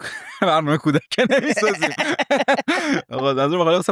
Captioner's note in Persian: خنده